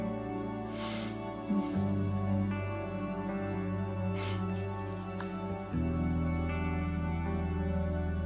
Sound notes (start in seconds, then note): 0.6 mother sniffing